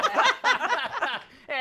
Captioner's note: laughter